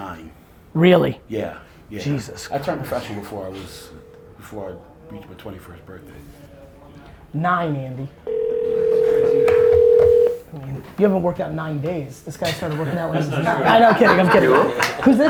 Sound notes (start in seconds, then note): 8.2 phone ringing; 12.6 laughing